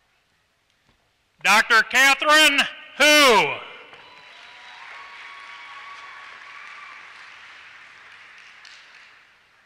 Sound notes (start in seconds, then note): 3.9 applause